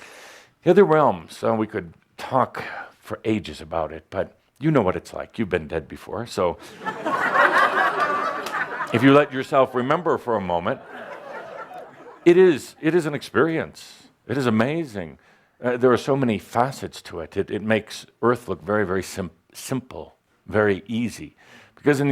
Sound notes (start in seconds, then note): 6.6 laughter